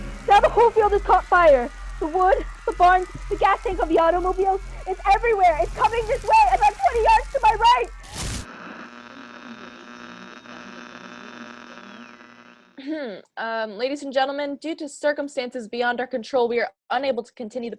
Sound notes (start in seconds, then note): 8.1 fire whooshes; 8.1 radio static